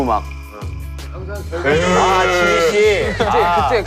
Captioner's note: cried